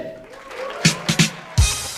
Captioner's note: audience applauding